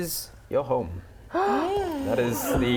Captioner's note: gasp